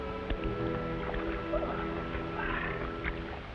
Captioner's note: water splashes